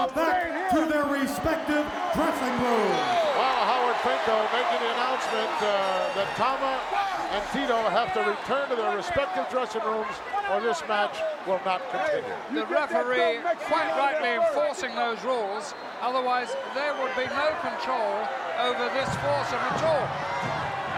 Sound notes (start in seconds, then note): 3.1 audience cheering